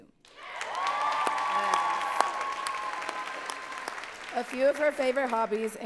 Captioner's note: audience cheering and clapping